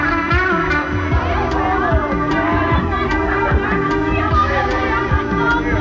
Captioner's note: people talking